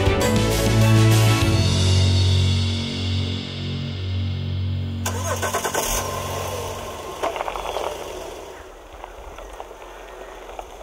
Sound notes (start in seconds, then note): 5.1 car engine rumbling